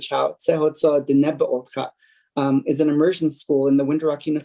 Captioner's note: foreign language